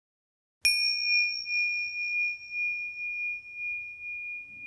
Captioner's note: bell chimes